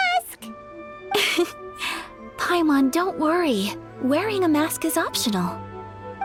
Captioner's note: chuckle